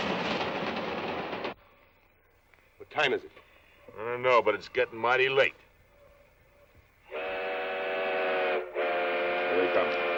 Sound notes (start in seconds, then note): 7.0 train whistles